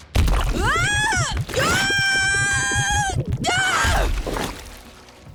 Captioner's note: screaming